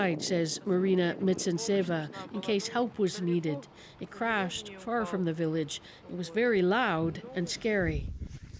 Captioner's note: speaking alternate language